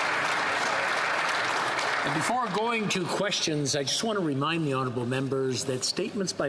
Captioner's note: applause